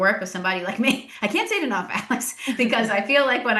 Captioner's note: laughs